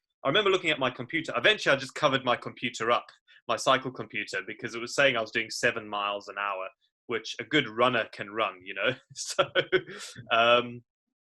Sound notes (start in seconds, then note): 9.2 laughs